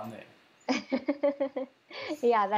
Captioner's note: laughs